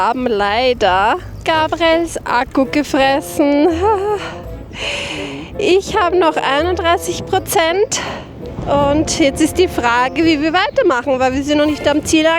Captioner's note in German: japst